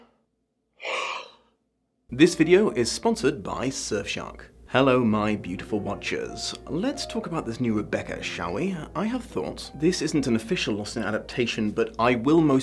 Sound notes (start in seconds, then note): 0.8 gasp